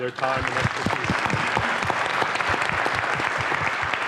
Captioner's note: audience applause